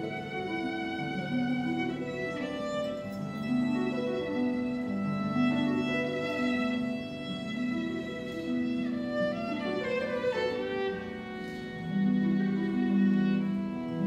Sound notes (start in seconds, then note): none